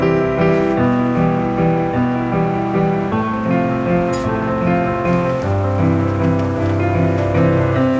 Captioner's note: conversation